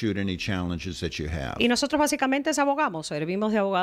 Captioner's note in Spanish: Hablando ingl\s